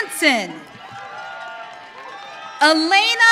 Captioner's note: audience cheering